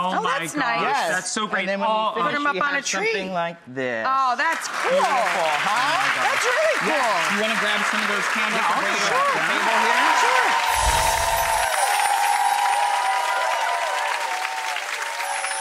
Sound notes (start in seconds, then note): 10.4 audience applauding